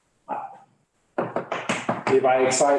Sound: chalk tapping

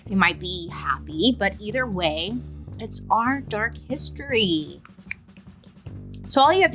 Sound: clicks fingers

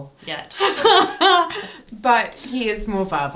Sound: laughs

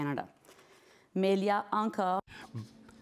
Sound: speaking in French

